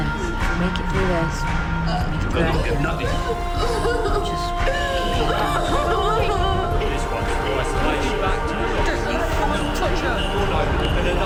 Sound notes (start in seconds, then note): 6.1 crying; 7.2 dramatic music